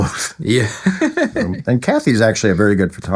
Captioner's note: laughing